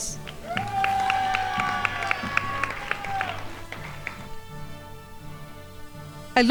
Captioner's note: crowd applauding